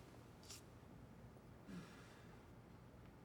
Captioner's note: none